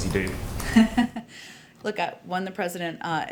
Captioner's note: laughs